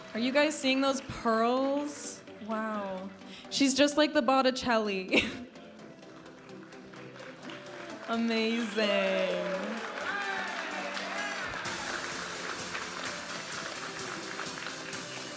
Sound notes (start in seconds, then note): 5.7 vibrant music; 9.1 audience applauding and cheering; 12.5 vibrant music